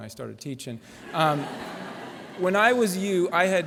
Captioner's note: laughter